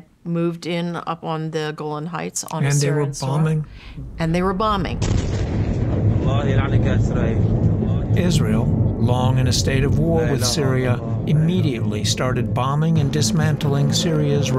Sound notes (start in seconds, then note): 2.8 explosion echoing; 4.5 speaking Arabic